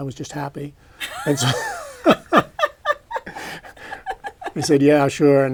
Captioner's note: laughter